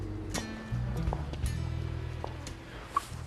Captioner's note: footsteps